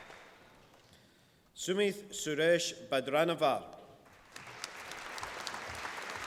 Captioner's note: applause